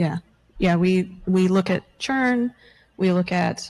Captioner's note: none